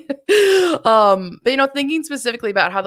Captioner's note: laughs